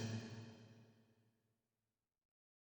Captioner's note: silence